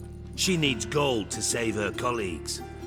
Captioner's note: none